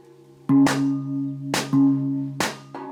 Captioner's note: gong sounds